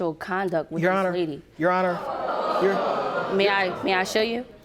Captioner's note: audience gasping